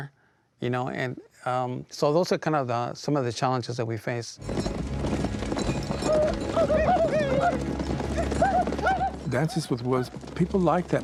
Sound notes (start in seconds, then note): 4.4 hoofbeats thudding; 6.0 natives whooping